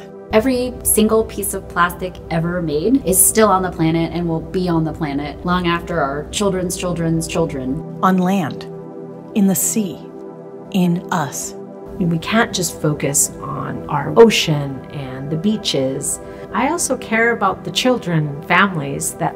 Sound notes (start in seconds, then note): 8.2 voiceover